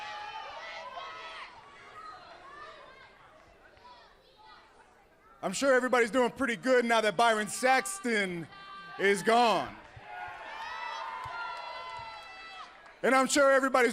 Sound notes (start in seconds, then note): 0.0 crowd cheering; 2.2 crowd chatter